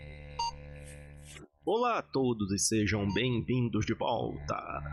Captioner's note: speaking portuguese